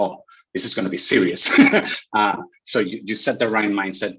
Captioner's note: laughs